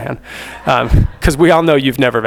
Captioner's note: attendees laugh